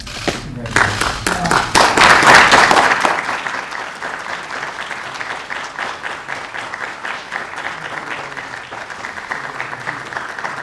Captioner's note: applause